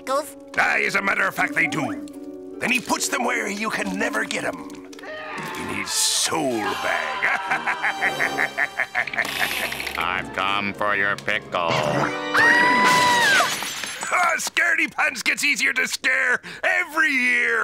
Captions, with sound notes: Aye, as a matter of fact, they do. And he puts them where you can never get 'em... in his soul bag. [laughing evilly] I've come for your pickle. [screaming] Ha. Scaredy pants gets easier to scare every year.